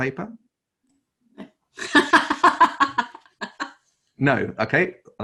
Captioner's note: laughs